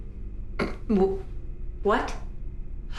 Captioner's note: stammers